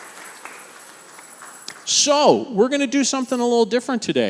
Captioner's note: congregation applauding